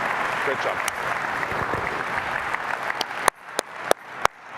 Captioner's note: applause